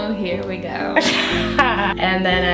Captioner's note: laughing